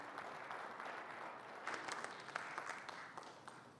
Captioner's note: audience claps